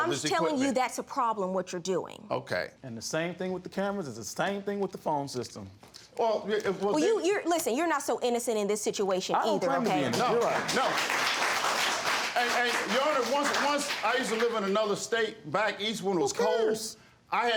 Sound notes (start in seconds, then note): 9.8 audience claps